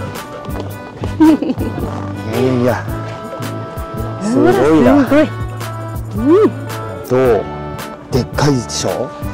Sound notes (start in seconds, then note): 1.1 laughs